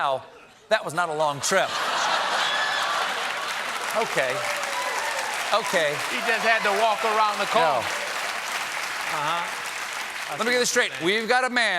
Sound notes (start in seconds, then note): 4.3 applause; 4.3 laughter